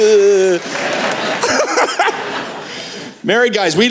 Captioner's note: laughter